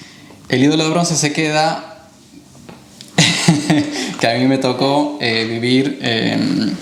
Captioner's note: laugh